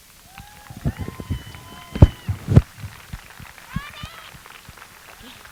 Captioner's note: applause